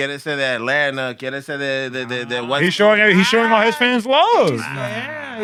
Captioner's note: speaking Spanish